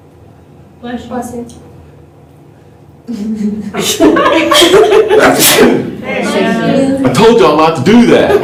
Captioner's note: laughter